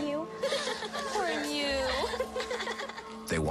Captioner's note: laughter